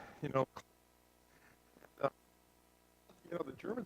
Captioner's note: static